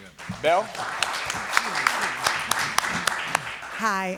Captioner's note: applause